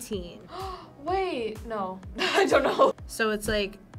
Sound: gasps

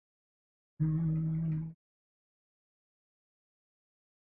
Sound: hums

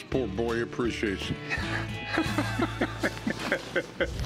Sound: laughter

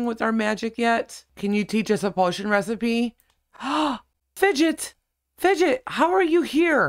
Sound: gasp

